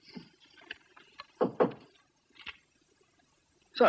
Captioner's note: knocking